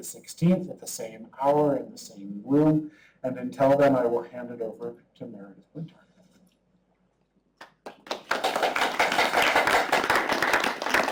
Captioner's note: clapping